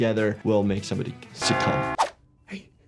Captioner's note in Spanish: Suenan las campanas